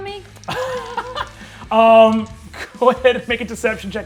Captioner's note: laughs